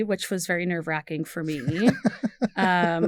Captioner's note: laughs